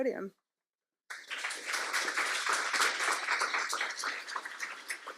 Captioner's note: audience applauding